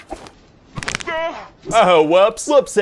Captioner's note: bones snap